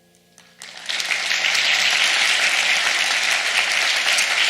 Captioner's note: audience applauds